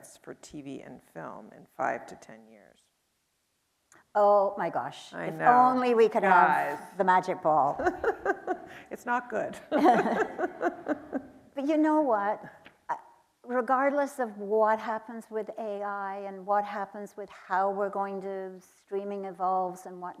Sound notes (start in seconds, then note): 9.6 chuckles; 9.6 laughing; 9.6 laughs